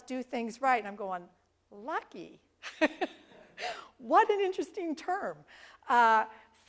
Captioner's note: laugh